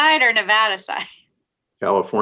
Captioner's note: laughs